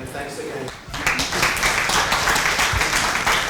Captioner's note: applause